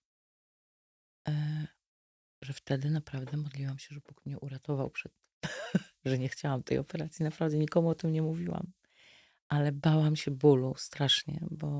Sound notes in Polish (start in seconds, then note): 5.4 śmiech